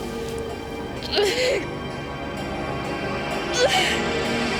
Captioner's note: crying